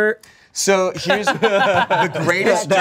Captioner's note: everyone laughs